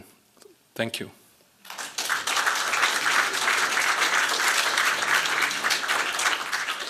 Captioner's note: applause